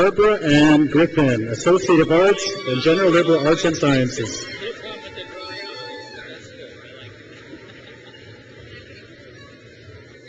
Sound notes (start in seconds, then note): 0.0 crowd cheers; 4.7 crowd cheers